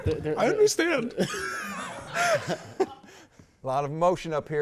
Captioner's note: laughing